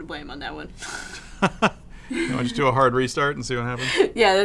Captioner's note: laughs